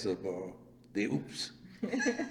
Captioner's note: laughs